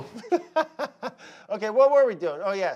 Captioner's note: laughing